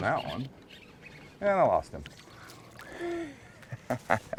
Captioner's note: reel cranking